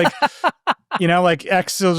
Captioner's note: laughing